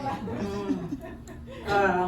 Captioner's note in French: rires